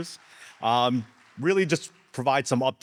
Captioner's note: audience applauding